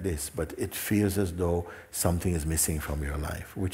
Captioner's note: none